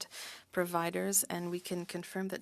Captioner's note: speaking french